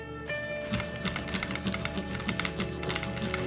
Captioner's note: knife scraping